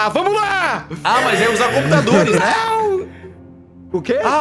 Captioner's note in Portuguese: gritando animado; gritando